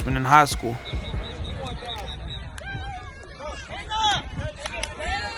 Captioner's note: people chatter